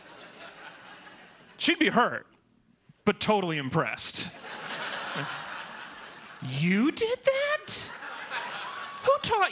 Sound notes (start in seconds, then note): 4.3 laughter